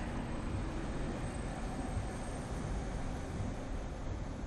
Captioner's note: none